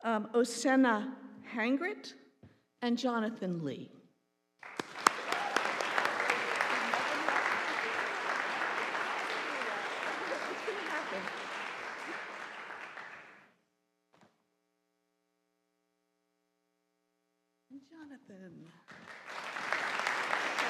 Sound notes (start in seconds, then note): 4.6 audience applauding